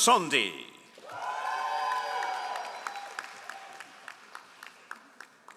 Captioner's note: all applauding